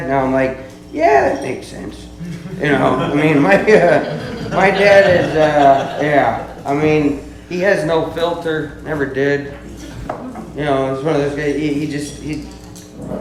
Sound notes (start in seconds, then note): 2.2 laughs